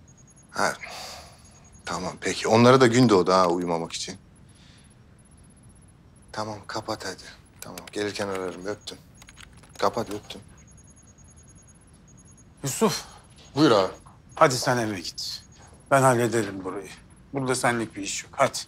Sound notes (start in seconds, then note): none